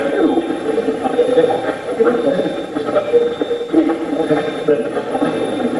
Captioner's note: Steve's Box chatters